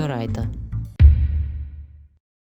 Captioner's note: boom